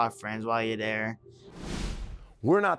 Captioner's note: whoosh sound